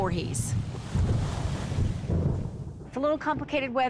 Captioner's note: waves crashing